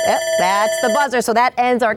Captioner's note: alarm buzzer rings